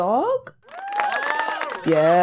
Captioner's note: cheering